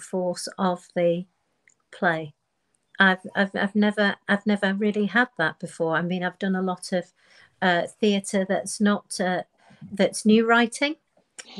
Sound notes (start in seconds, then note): none